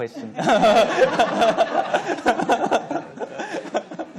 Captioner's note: laughing